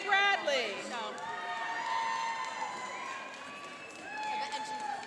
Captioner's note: cheering and applauding